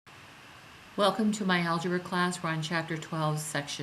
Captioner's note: voiceover